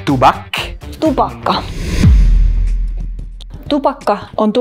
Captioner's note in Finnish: siirtymä-äänitehoste